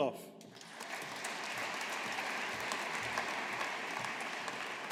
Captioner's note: audience applauding